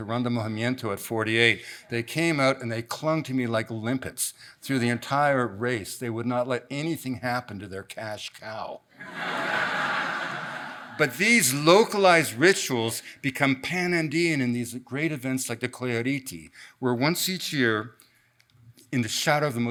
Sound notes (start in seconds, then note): 9.0 audience laughs